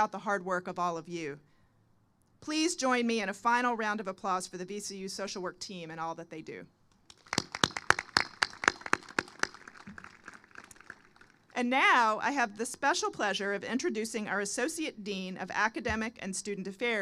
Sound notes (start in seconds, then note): 10.7 applause